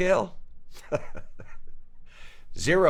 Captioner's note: director chuckles